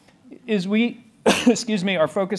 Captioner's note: coughs